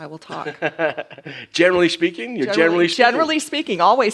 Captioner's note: laughs